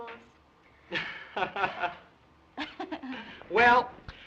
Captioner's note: both laugh